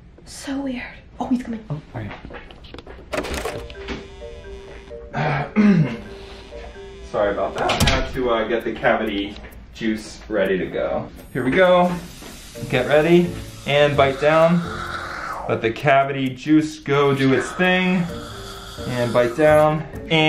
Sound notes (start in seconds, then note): 3.0 door rattles; 3.5 upbeat music; 5.6 dentist clears throat; 14.6 cavity juice hisses